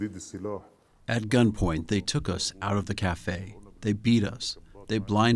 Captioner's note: through translator